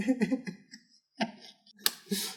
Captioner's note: giggles crazily; sobbing